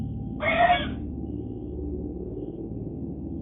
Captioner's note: horse whinnies, a lot